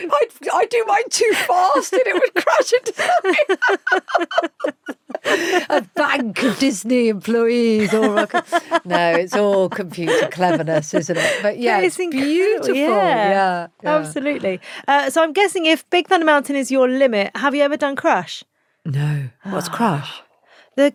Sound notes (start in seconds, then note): 3.6 both laughing; 7.6 laughs